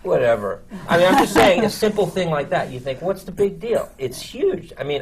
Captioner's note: laughter